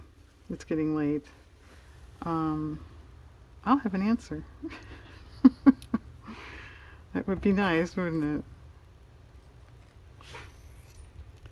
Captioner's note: laughs